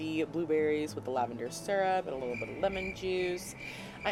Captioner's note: crickets chirping